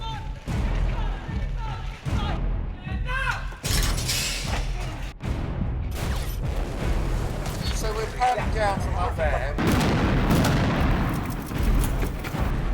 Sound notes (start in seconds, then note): 9.5 explosion